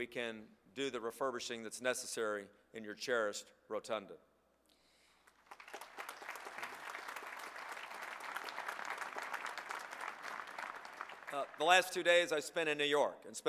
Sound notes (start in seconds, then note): 5.2 applause